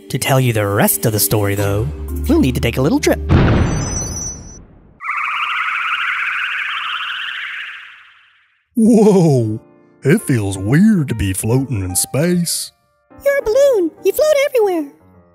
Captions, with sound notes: To tell you the rest of the story though, we'll need to take a little trip. (explosion and magic tinkling sound) (sound of space ship) Whoa! It feels weird to be floating in space. You're a balloon, you float everywhere.